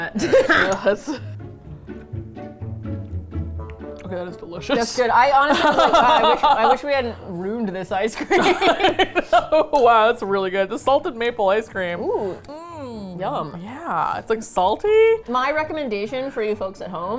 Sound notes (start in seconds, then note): 0.1 laughs; 5.4 laughs; 8.7 both laugh